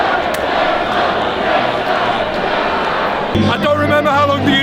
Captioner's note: audience cheers